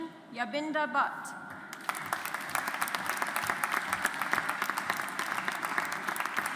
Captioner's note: audience applauds